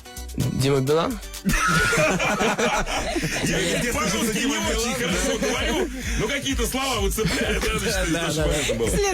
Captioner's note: everybody laughs